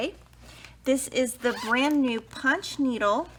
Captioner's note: zipper vibrates